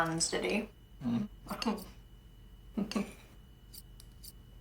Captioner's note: Stef giggles